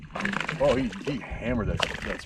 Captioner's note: fish splashing